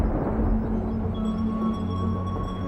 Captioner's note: thunder